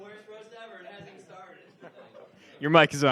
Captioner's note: laughs